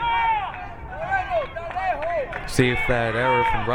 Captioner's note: crowd cheering